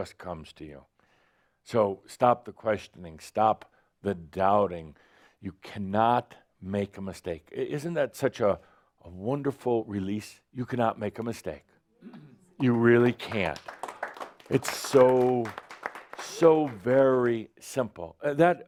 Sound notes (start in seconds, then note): 12.6 some applause